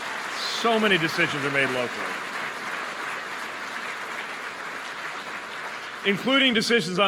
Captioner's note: applause